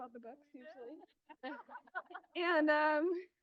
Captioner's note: crowd laughing